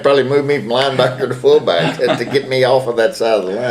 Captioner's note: laughter